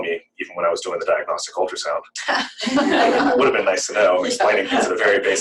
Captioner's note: laughter